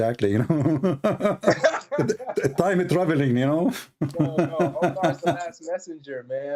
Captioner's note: Ketawa